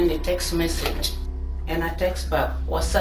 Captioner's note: none